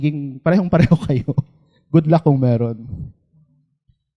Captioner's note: chuckles